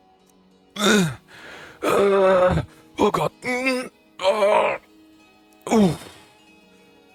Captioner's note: huffing and panting